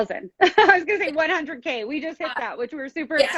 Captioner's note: laughs